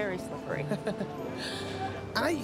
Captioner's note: laughing